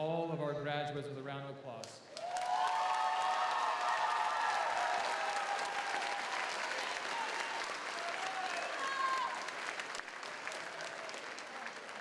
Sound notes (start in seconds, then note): 2.1 audience applauds; 2.2 audience cheers